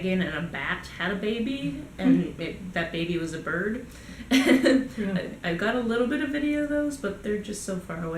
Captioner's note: laugh